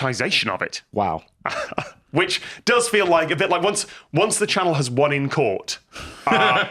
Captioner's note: laughs